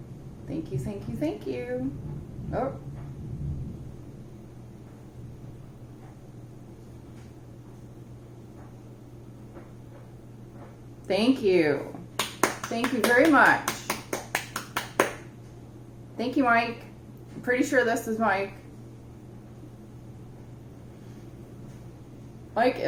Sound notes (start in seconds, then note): 15.0 clapping